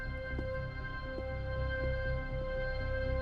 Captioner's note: footsteps